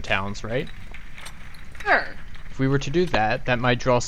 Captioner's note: stompy